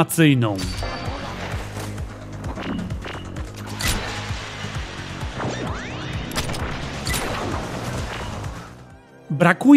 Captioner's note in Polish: dźwięki z gry razem z muzyką